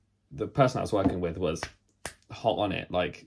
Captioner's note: snaps